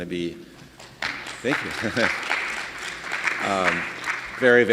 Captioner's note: audience clapping; laughing